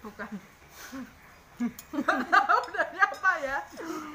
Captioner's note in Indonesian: Mereka tertawa